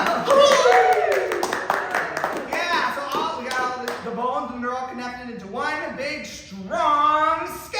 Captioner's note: applause